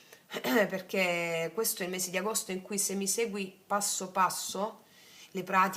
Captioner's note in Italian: schiarire la voce